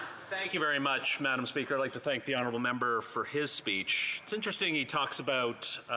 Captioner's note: speaking French